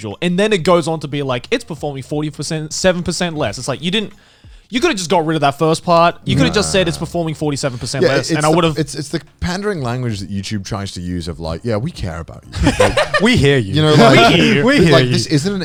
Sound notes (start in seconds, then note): 13.9 Joey laughing